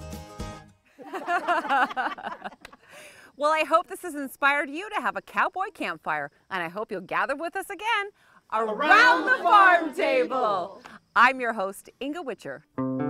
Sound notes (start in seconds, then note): 1.0 all laughing